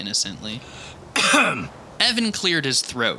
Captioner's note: Evan coughs